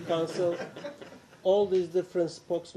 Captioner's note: laughter